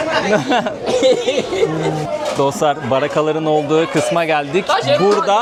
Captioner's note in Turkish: kahkaha